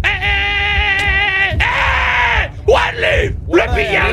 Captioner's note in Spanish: grita